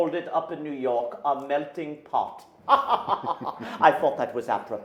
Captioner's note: men laughing